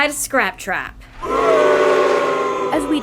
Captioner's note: crowd boos